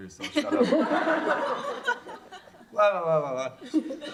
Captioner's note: laughter